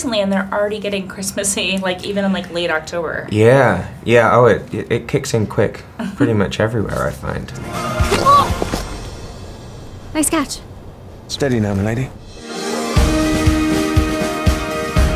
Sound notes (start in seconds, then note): 8.0 yells; 12.2 lively music